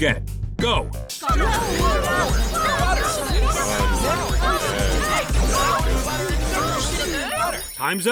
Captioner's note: screaming and muffled voices; timer ding